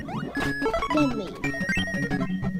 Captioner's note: imitating Kirby